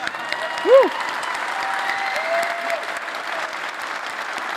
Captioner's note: applause